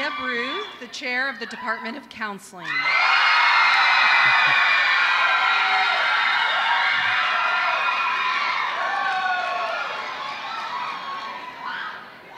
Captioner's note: applause